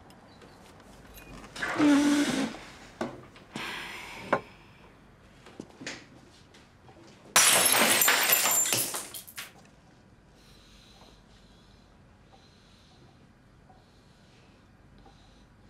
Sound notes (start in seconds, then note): 1.4 chair scraping; 7.3 plate breaking